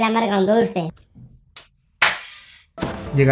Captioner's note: Rony drops the photo album